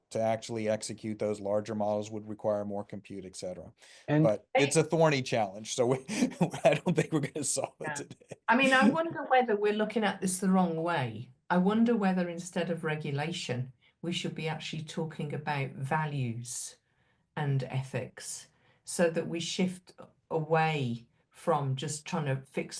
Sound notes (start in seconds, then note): 5.8 laughs